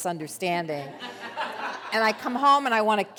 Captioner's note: audience laughs